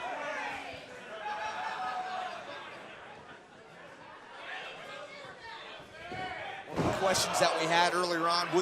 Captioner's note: crowd chatter